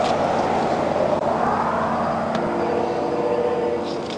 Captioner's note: vehicles roaring